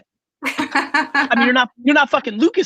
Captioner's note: laughing